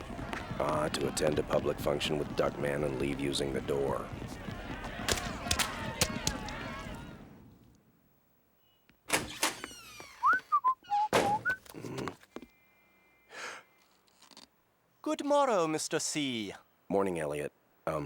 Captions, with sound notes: Ah, to attend a public function with Duckman and leave using the door. (whistling) (grunts) (gasps) Good morrow, Mr. C. Morning, Elliott.